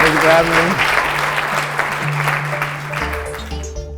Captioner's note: audience applauds; mysterious music